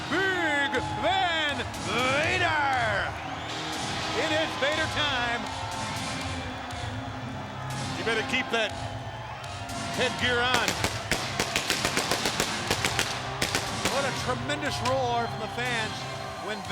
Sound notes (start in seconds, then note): 2.0 crowd clamoring; 6.1 crowd clamoring; 9.7 fireworks exploding; 11.1 crowd clamoring